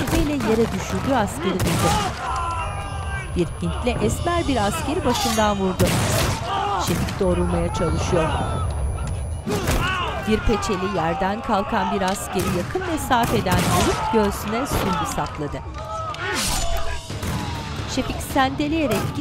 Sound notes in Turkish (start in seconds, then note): 7.8 Çınlama sesi; 9.3 Dövüş sesleri; 9.3 İnleme sesleri; 13.0 Silah sesleri; 16.4 Müzik - Gerilim; 17.0 Silah sesleri